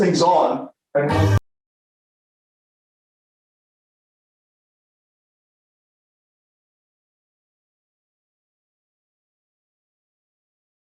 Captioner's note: audio cuts out